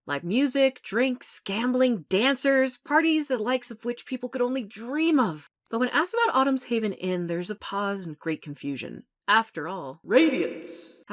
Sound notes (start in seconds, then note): none